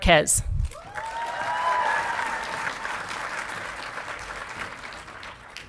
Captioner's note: audience clapping and cheering